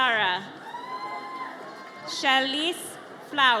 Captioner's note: audience cheers